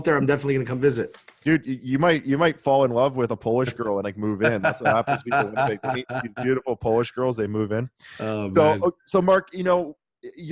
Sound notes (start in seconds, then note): 4.2 laughs